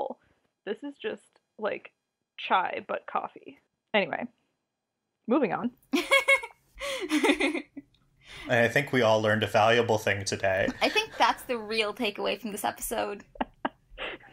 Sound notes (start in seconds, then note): 6.8 laughs; 13.2 laughs